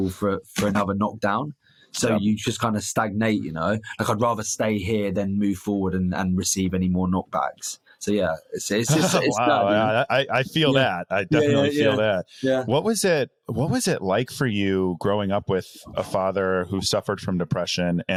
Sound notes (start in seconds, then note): 8.8 chuckling